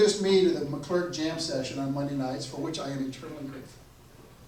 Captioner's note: none